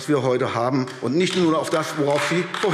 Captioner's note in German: Beifall AfD